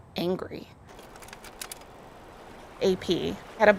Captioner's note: film projector clicks